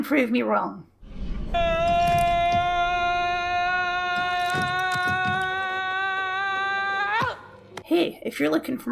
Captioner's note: screaming